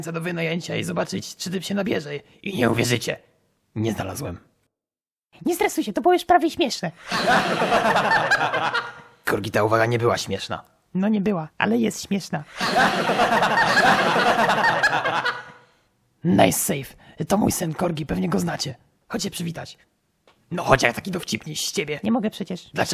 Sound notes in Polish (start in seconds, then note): 7.0 śmiech; 12.5 śmiech